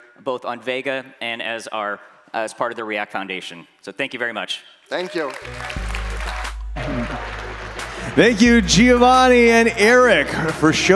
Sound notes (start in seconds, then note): 4.9 audience applauding